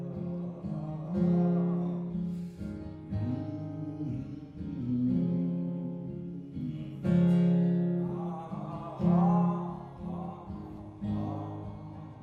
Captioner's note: humming